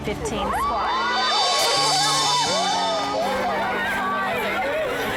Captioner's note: all cheering